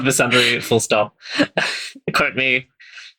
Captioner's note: laughing